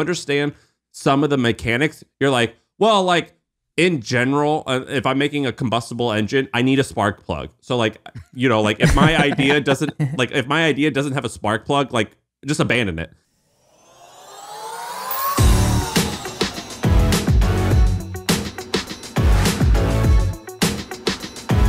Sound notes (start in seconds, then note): 8.8 laughing; 14.1 upbeat music